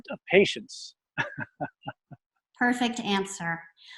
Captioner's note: laughs